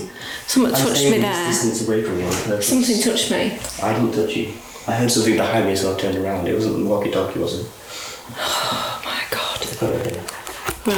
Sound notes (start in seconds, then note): 8.5 sigh